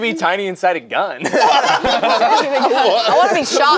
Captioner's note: group laughs